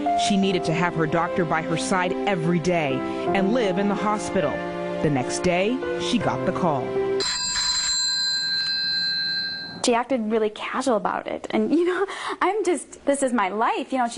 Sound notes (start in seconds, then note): 7.2 cell phone rings